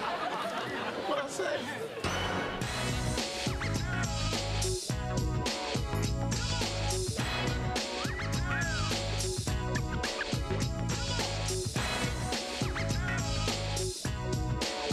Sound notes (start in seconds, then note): 7.9 wolf whistle